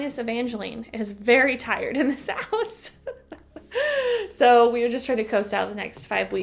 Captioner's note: chuckle